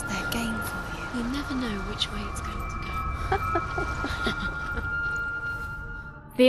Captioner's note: laughter